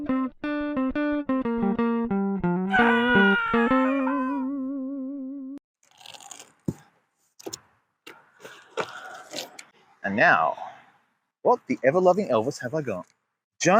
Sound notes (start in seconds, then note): 1.1 guitar playing; 2.7 person screaming